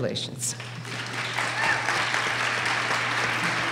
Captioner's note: applause